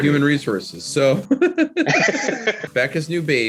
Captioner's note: Nick laughs